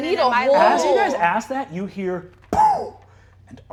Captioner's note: poofs